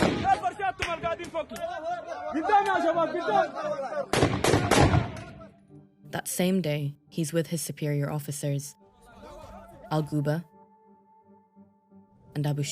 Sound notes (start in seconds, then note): 4.1 gunshots